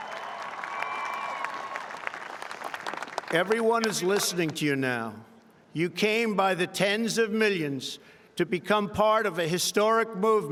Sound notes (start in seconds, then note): 0.0 applause; 4.5 applause